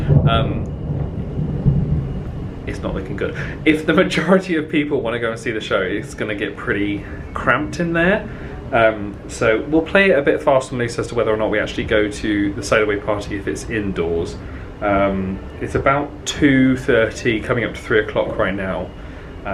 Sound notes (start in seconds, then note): 1.1 thunder rumbling